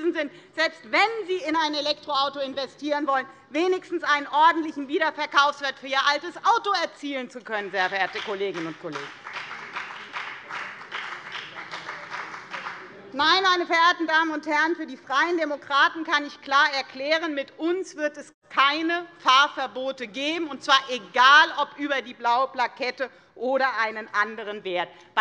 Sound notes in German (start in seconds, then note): 9.9 Beifall bei der FDP